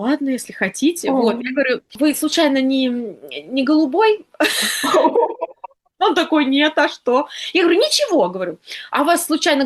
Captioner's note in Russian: смех